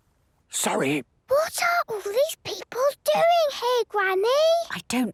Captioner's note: whispering; quietly